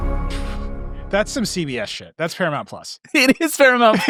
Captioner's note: laughing